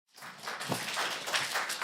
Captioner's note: applause